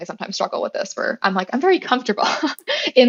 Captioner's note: laugh